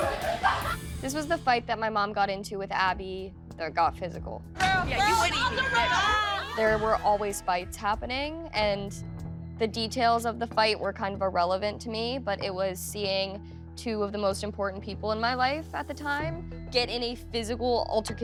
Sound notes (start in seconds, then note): 4.7 indistinct shouting